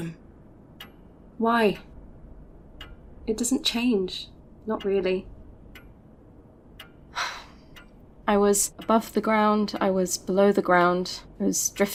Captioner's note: sighs